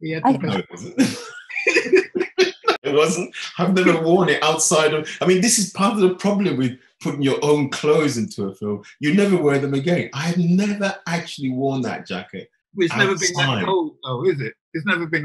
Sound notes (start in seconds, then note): 0.4 both laughing